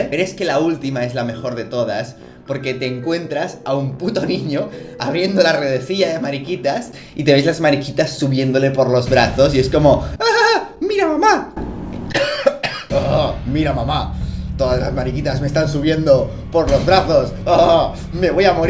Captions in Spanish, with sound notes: Pero es que la ultima es la mejor de todas Porque te encuentras a un puto niño abriendo la redesilla de mariquitas Y te ves las mariquitas subiendole por los brazos Y es como *risita* Mira mamá! *cof* *cof* *cof* Mira mamá! Todas las mariquitas me están subiendo por los brazos ohohoh Me voy a morir!